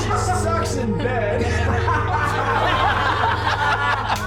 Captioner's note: laughter